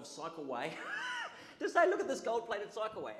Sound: audience laughs

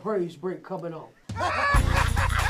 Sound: laughter at once; gospel music begins

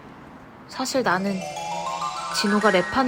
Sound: timeslip sound effect

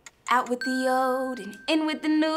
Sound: bell dings

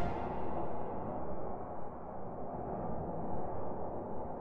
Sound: wind blowing

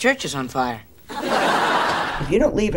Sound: audience laughing

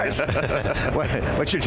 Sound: laughs

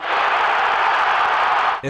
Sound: crowd

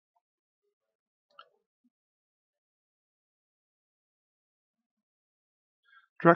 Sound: silence

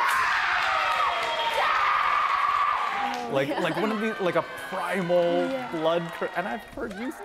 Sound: screaming

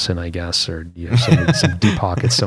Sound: laughter

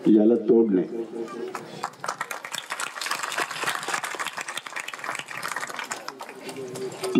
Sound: clappings

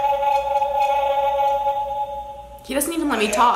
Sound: whirring

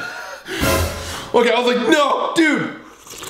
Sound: gasping; slurping

